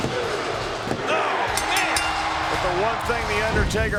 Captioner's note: bell ringing